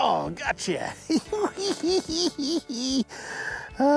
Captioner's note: giggles